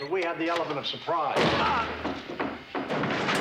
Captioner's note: thuds